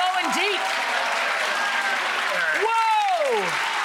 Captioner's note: audience cheering and clapping